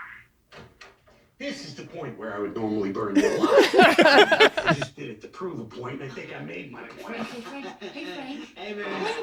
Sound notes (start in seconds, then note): 3.1 they laugh